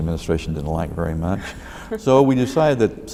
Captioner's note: laughs